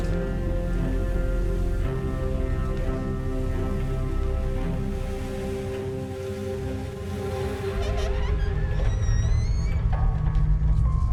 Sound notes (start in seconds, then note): 0.1 tense music continues; 6.7 tense music continues; 7.8 door creaking